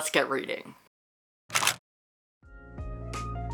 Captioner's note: camera shutter